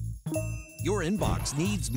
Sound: notification chimes

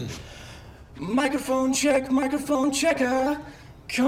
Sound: in robotic voice

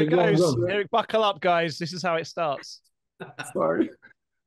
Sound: laughter

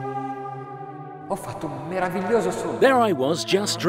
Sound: speaks foreign language

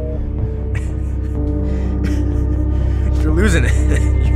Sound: laughs insanely

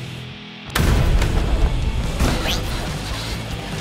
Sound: rock music; gunshot

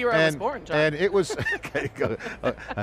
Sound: laughing

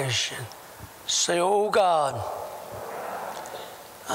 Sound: audience repeats prayer throughout

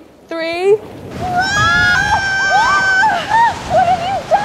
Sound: wind rushing

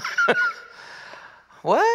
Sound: laughs

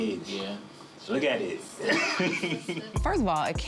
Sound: laughing

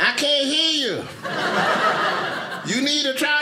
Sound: audience laughing

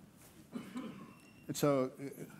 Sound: attendee coughing

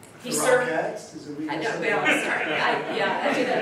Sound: laughing

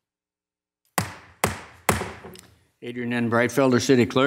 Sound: thudding sound

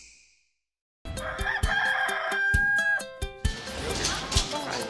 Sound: snap; rooster crowing

